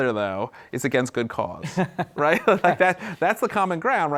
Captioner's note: laughs